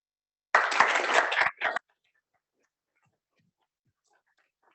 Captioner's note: applause